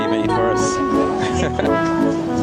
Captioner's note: nervous laughter